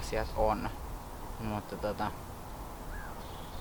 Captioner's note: some bird noises